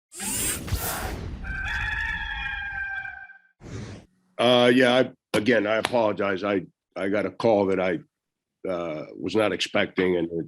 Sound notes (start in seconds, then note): 0.2 dramatic music; 1.4 rooster crows